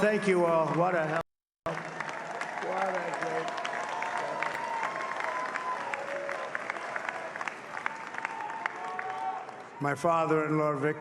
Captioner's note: applause